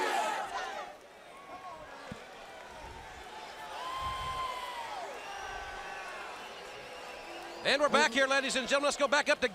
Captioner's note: crowd cheering